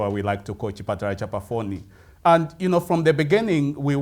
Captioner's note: speaking in foreign language